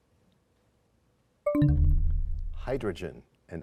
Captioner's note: bell chimes, time expires